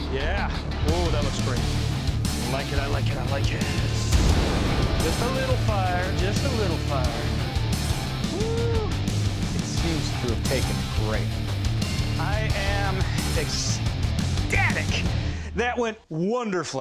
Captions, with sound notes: Oh, that looks great. I like it, I like it, I like it. [sizzling] Just a little fire. Just a little fire. Whoo! It seems to have taken great. I am ecstatic. That went wonderfully.